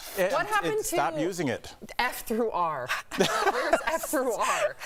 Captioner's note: laughter